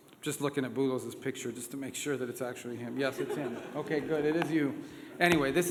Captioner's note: laughter